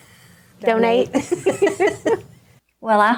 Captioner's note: laughing